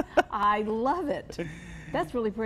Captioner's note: laughing